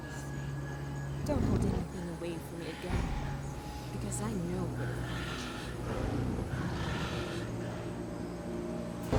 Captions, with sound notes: Because I know when you lie. (growls)